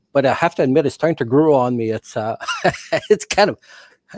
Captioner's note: laughing